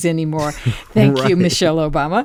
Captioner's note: laughter